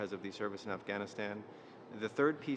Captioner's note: speaking French